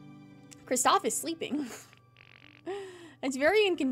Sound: laugh

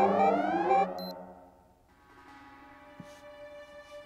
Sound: beeping

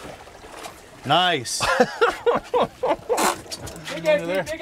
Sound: laughing

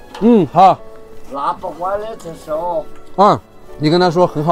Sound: local language

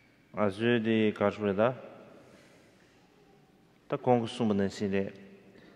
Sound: speaking in foreign language

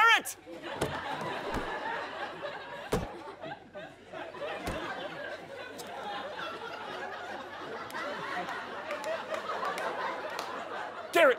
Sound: audience laughter

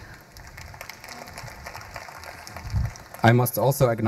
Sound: audience applauding

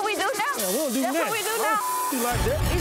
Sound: beep

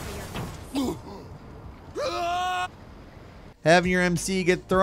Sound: character grunts and screams

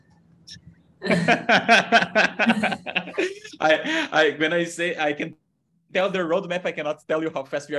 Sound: laughs

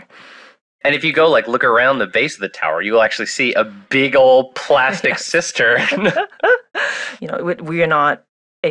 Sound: laughs

